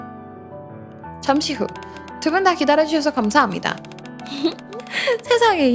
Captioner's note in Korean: 웃음